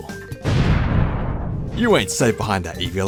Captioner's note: boom